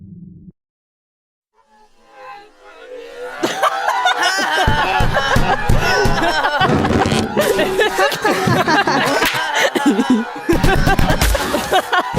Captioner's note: laughing